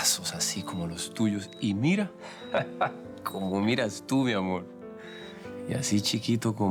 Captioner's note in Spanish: Ríe